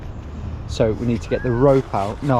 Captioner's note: whistles